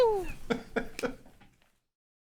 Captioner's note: laughter